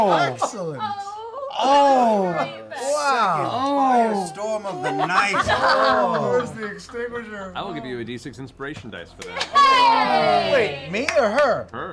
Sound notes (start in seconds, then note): 5.4 group laughter; 9.2 group cheer